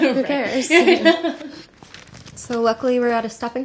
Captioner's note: laughing